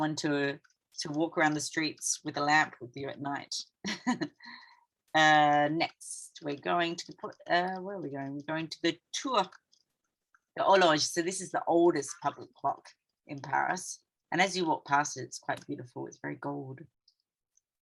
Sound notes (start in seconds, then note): 3.8 chuckling